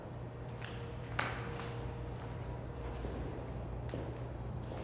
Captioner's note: footsteps